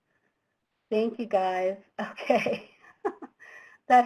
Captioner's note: laughs